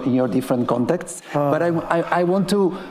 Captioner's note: sighing